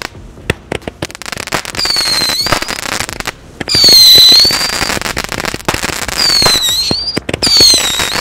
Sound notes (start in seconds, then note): 1.9 fireworks whistling and crackling